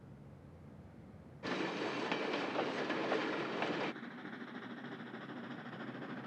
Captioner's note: train clacking, chugging